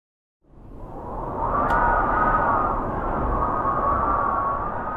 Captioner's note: wind howling